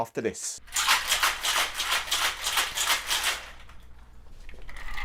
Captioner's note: ice clinking loudly